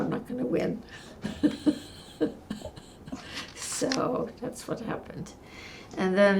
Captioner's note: laughing